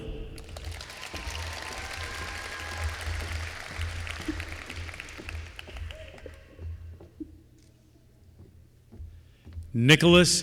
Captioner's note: applause